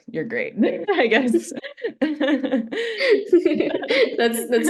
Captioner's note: laughter